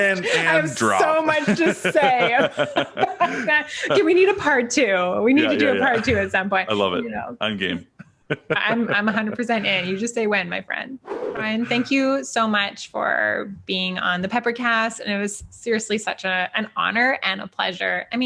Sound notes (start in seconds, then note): 0.7 laughing; 1.4 both laughing; 8.3 laughing; 11.0 air whooshing